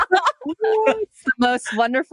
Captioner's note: all laugh